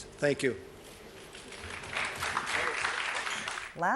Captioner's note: applause